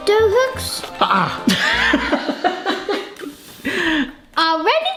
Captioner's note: laughing